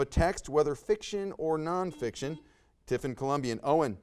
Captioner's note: buzzer buzzes